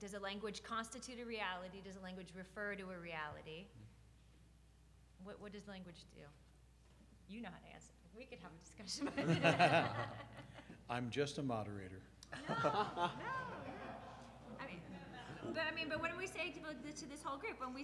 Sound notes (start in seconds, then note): 9.0 laughs; 13.9 audience laughing